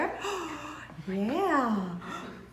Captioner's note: gasps